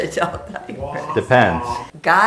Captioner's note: laughing